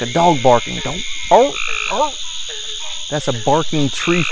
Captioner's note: Sheldon barking